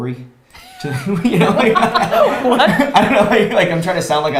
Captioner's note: both laughs